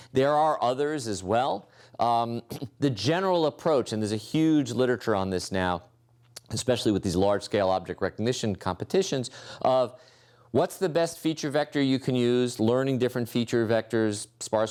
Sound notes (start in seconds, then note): 2.4 cough